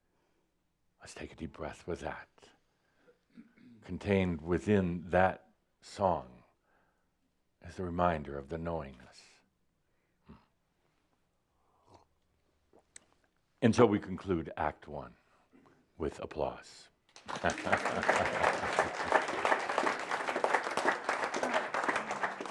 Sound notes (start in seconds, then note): 17.1 audience applause